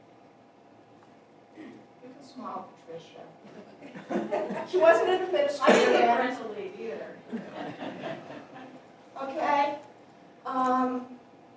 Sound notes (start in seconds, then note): 3.5 laughter